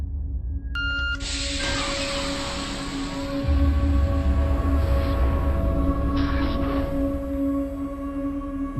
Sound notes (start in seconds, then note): 0.7 electronics beeping; 5.2 tense music